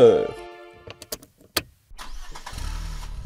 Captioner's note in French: Voiture qui démarre